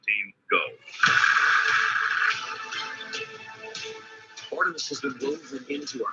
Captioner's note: rocket engine roaring